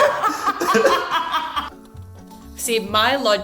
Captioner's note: laughing